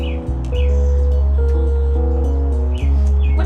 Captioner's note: sonic buzzing